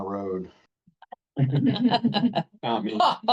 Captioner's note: group laughing